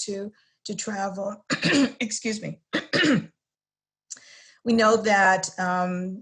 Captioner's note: cough